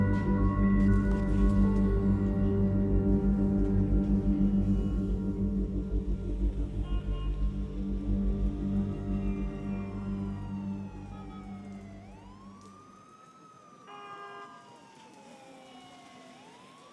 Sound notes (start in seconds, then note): 6.7 sirens wailing; 6.8 car horns honking